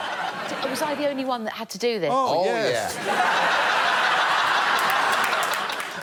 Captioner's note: laughter